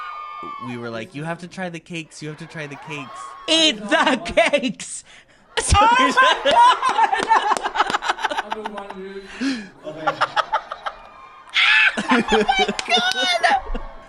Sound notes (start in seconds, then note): 5.6 laughs; 7.2 laughter